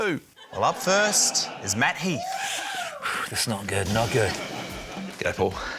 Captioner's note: exhales